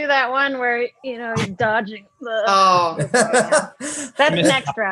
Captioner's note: laughs